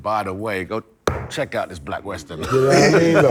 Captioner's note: hits table; laughter